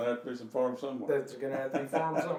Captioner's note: laughing